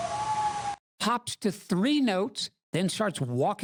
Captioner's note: howl with pitch changes